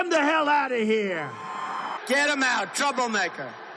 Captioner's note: cheering